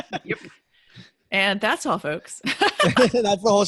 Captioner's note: laughs